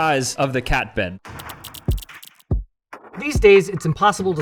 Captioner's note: graphics rattling; intense music